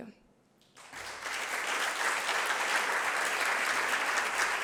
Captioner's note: applause